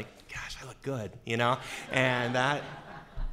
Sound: laughing

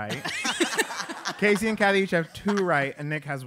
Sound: laugh

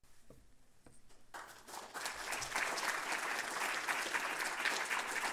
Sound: applause

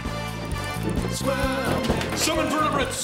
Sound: cheering

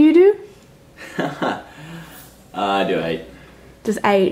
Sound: laughs

